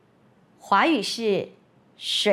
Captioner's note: in Mandarin